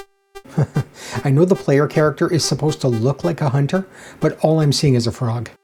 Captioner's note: chuckles